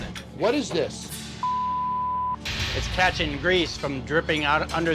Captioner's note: beep